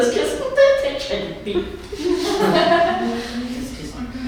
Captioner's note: laughing